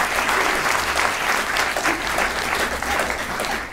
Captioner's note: applause; laughter